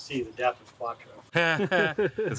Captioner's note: nervous laughing